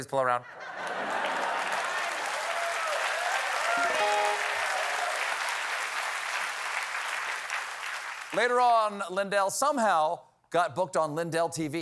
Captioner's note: applause